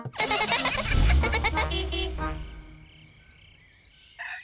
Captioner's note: horn toots; giggling